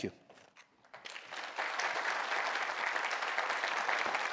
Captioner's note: applause